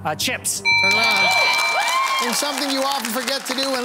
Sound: buzzer ringing

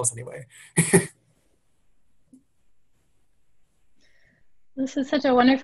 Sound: laugh

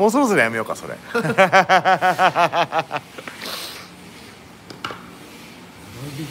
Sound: laughs

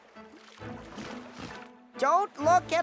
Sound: water splashing

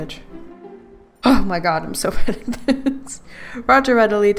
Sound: laughs

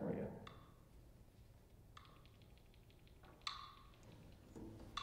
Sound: metronome clicking

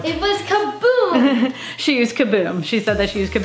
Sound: laughs

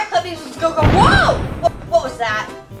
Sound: loud booming

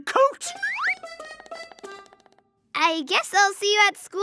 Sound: slide whistle ascends

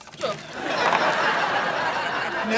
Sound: laughing

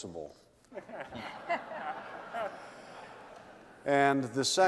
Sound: laughter

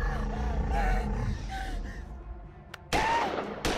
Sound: gun fires

